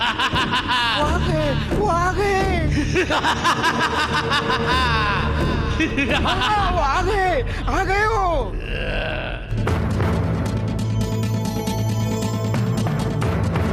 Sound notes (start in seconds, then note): 2.6 laughs